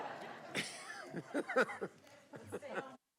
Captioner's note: applause